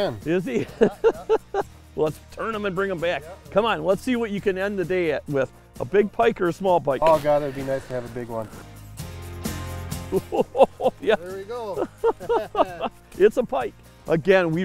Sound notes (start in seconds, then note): 0.5 laughing; 10.1 laughing excitedly; 11.6 both laughing